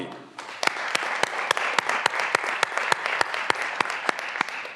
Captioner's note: graduands applauding